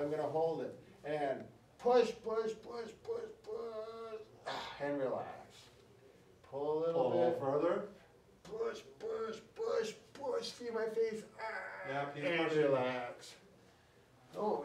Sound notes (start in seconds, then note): 4.4 exhales